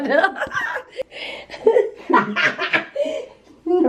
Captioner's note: laughter